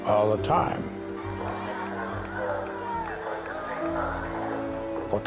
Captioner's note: cheering